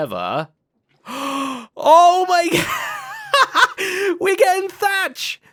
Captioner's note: gasps; laughs